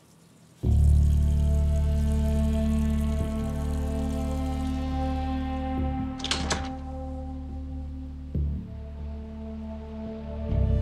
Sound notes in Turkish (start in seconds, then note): 6.0 Kapı açıldı